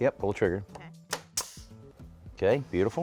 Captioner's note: nail gun fires